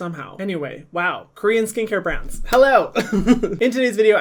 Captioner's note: giggles